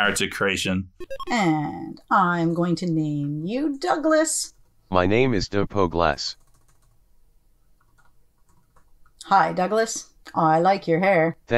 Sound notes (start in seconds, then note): 4.9 computer voice